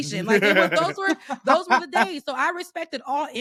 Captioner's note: laughing